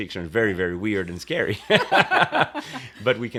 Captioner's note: laughter